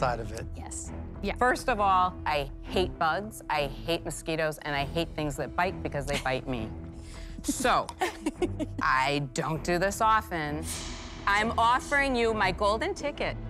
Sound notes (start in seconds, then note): 7.4 chuckles